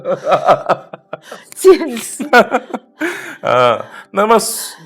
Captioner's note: laughing